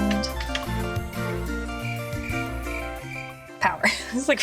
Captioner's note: crickets